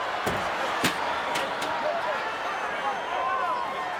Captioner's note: body thuds; audience chattering